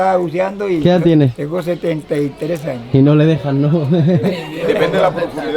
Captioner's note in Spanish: Se ríe